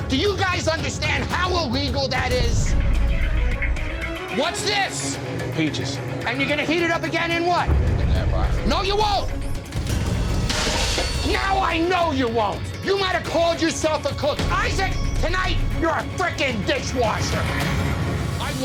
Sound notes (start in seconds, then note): 3.0 suspenseful music; 10.4 pot clanging